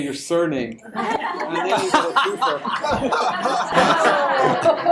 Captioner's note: audience laughter